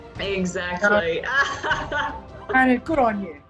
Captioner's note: laughs